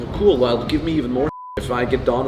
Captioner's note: beep